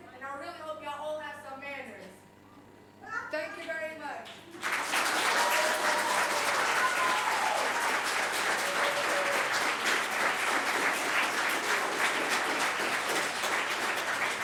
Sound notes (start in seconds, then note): 4.3 audience applauding; 4.6 audience cheering